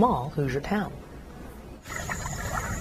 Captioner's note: nat water